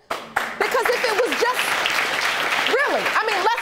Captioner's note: audience applauding